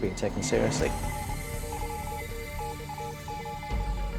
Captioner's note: beeping